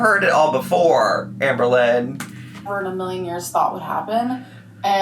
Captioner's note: none